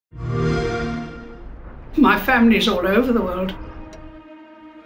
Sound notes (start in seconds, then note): 0.1 xbox sound